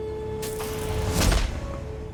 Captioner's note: thud